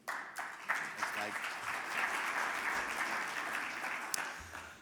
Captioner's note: audience applauding